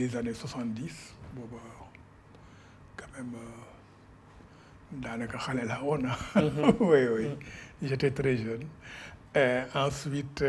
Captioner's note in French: Rires